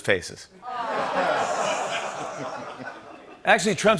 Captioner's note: laughter